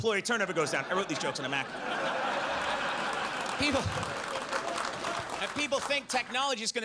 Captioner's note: audience laughs